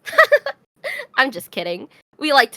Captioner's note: laughs; inhales